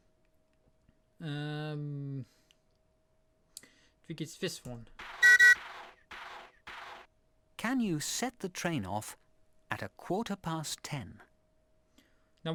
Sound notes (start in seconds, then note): 4.9 choo-choo